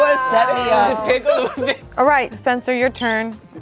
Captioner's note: chuckling